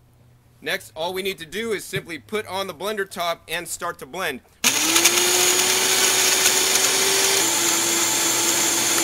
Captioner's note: blender mixing